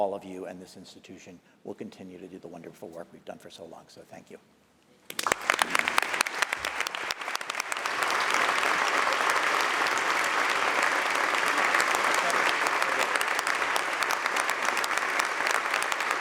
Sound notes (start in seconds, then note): 5.0 applause